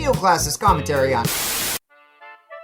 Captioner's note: TV static